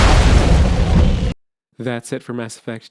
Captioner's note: explosion